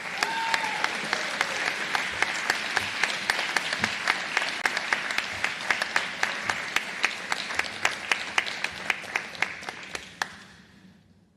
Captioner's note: applause